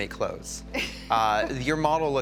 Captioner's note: chuckles